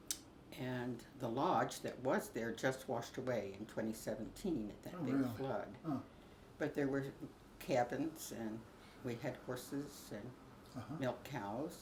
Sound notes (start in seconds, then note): none